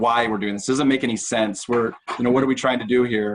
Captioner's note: chuckles